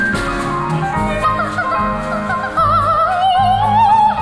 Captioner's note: humming